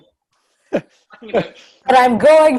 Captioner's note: laugh